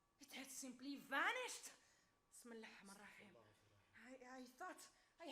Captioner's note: speaks Arabic